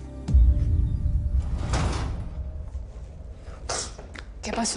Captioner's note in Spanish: Portazo